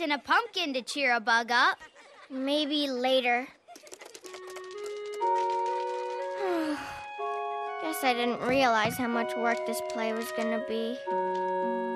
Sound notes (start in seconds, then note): 6.3 sighs